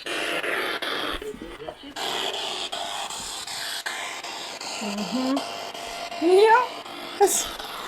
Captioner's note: sound of the Spirit Box in the background